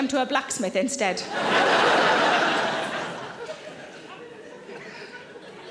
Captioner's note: audience laughing